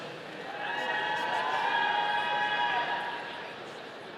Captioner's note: audience cheering